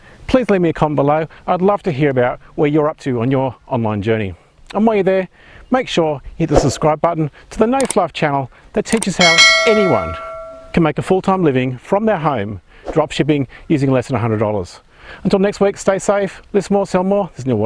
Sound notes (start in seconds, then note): 9.0 bell rings